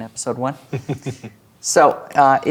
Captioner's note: chuckling